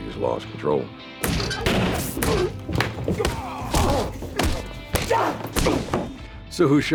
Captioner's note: punching, hitting